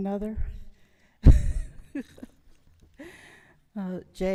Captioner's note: laughs